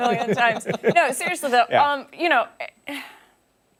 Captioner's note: laughter